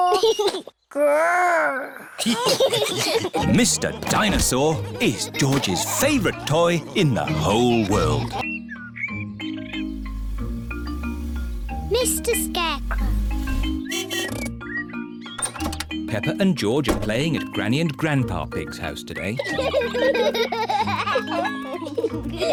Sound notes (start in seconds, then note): 2.1 giggles; 2.1 laughter; 13.4 honking; 19.3 both giggle